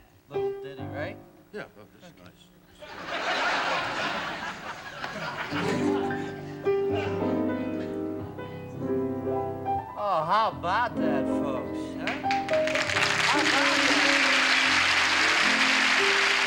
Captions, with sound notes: -A little ditty, right? -Yeah. Oh, this is nice. [ Laughter ] [ Slow piano music ] Oh, how about that, folks, huh? [ Applause ] How about that?